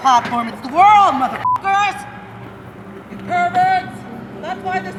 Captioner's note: beep